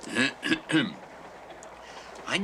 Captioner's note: clears throat